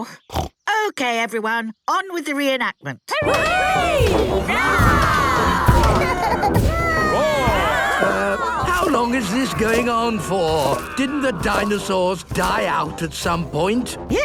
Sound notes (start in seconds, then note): 0.1 snorts; 3.3 cheering; 5.5 roarings, giggling